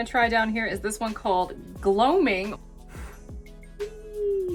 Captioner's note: blows